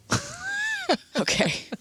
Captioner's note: laughing